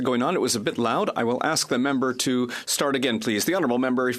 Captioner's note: speaking French